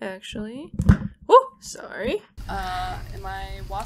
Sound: mic falling

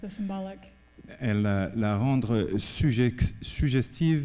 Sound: speaking french

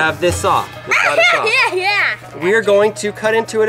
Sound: silly laughing

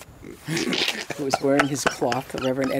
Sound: laughs

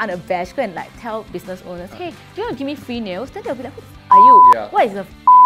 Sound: beep

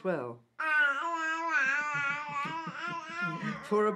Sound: laughter

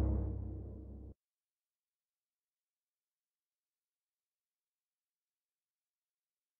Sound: musical fanfare; silence

